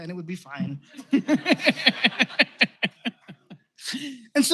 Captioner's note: laughter